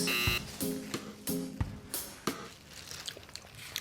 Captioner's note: buzzing